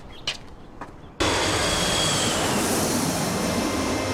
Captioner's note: plane engine roars